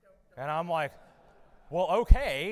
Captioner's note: audience laughing